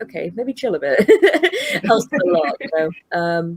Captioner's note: laughs